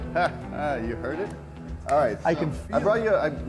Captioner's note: laughing